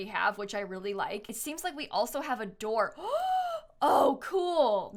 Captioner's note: gasps